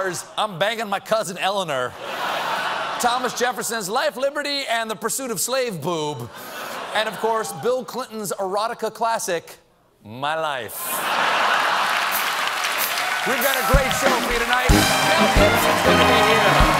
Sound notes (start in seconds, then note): 2.0 laughter; 10.8 laughter; 11.2 applause